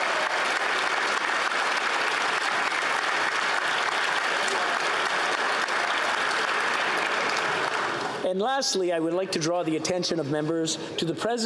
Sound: applause

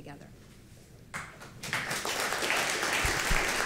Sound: applause

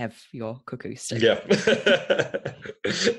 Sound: laughs

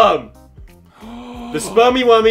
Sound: gasps

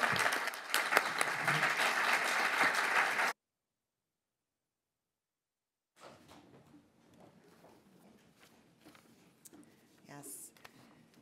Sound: applause

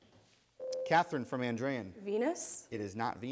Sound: ding

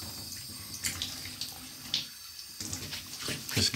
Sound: water running

